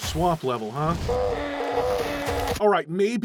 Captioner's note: zombie pain sounds from Doom